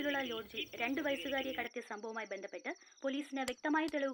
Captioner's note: TV news